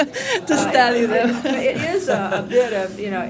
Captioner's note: laughing